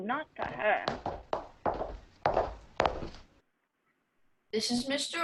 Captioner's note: two sets of footsteps